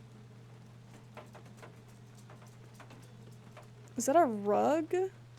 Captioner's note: doggy Nails Clicking